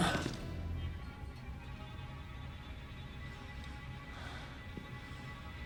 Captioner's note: Castellano exhales sharply